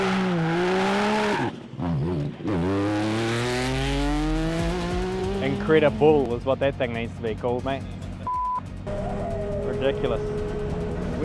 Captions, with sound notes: INCREDIBUL is what that thing needs to be called, mate, (beep). Ridiculous.